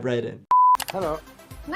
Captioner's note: screen beeping